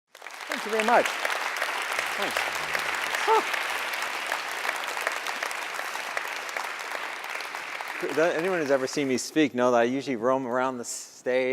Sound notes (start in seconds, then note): 0.1 clapping